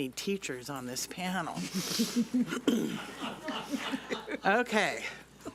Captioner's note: several attendees laugh